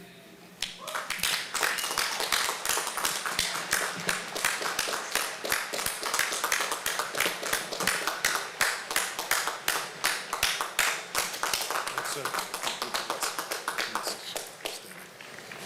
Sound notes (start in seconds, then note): 0.6 applause